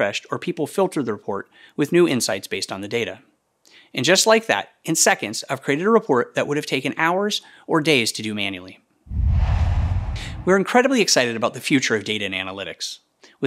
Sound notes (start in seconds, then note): 9.0 logo swooshes